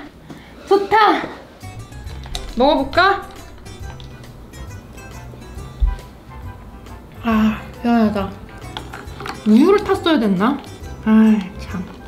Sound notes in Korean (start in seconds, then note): 4.8 먹는 소리